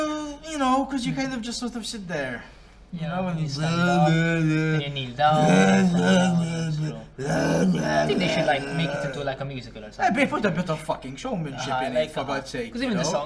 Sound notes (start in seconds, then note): 5.3 priest noises